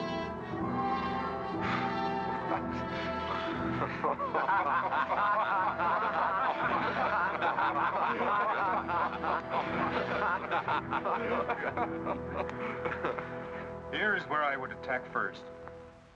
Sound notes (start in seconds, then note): 0.0 ominous music; 3.2 men laughing